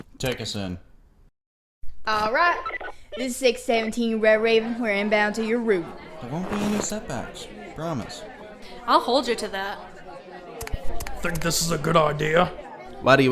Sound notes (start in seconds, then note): 3.0 radio